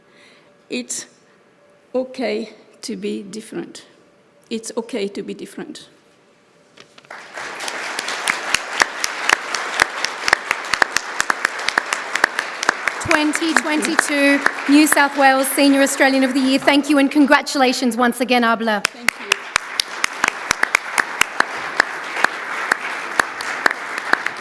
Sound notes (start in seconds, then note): 10.5 applause